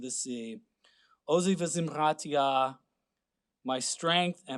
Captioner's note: speaking Hebrew